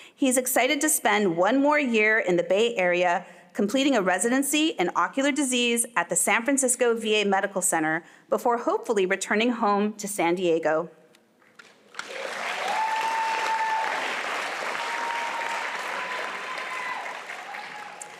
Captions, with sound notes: He's excited to spend one more year in the Bay Area completing a residency in ocular disease at the San Francisco VA Medical Center before hopefully returning home to San Diego. (applause and music)